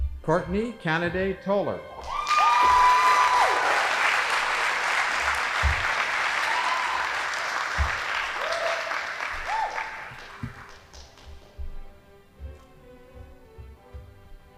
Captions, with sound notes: Courtney Candida Toler. (audience applauding) (band playing)